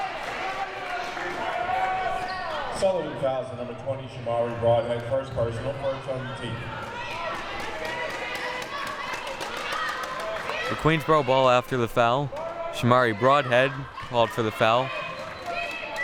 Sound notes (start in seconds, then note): 0.0 audience chattering and yelling; 8.4 audience yelling